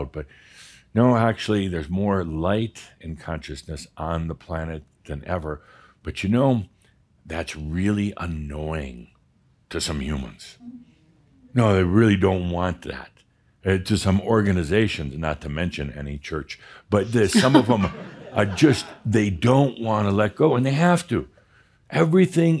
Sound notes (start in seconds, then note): 17.1 some chuckles